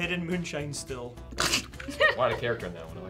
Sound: laughing

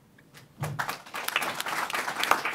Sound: applause

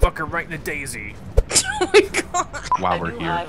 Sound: voiceover

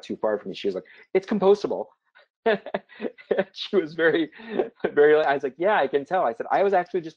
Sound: laugh

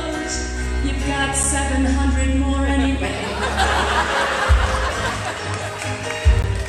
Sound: laughter

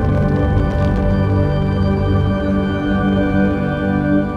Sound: rocket static sound

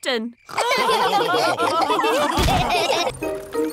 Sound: all laughing

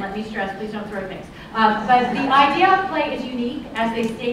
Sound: laughter

